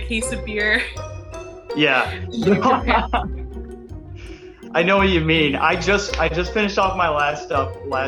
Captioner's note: laughter